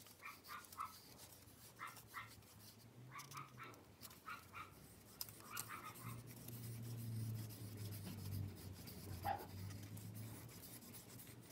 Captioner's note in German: Ein Hund bellt im Hintergrund weit weg